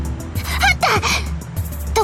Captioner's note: gasp